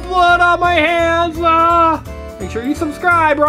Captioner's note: yells